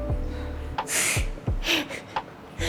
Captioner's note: laughs